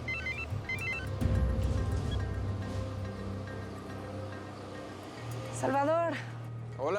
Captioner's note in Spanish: suena el celular